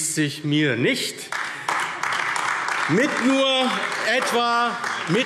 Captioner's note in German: Beifall AfD